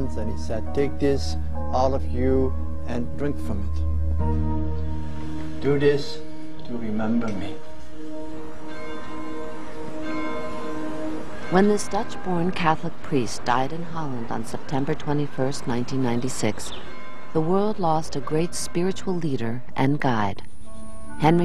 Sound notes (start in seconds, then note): 9.0 bell tolling